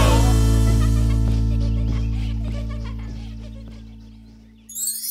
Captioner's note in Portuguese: Risos